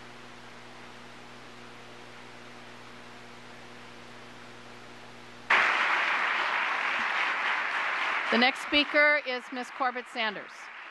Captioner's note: applause